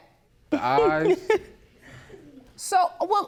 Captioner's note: laughs